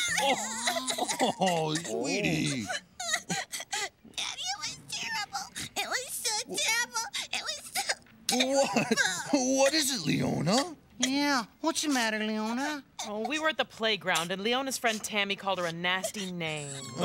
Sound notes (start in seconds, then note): 0.2 crying; 3.4 sobbing